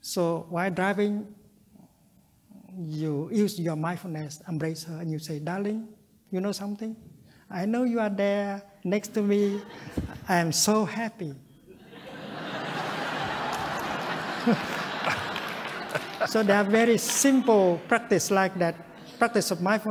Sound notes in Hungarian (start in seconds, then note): 14.4 nevetés